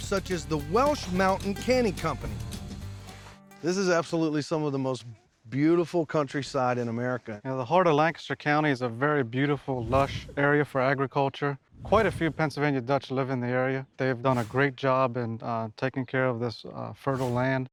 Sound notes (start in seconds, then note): none